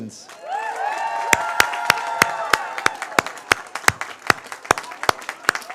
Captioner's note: cheers, applause